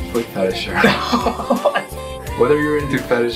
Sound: laughing

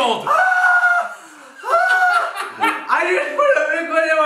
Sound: screaming

